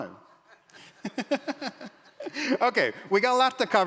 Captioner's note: audience laughs